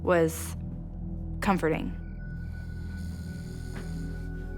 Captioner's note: Shawn snoring